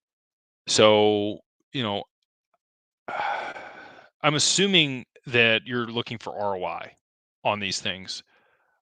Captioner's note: sighs and gasps